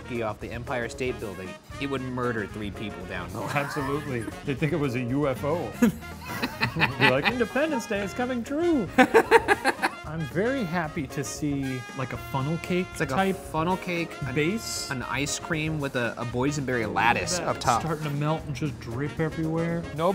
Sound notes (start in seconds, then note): 3.4 laughs; 8.9 laughing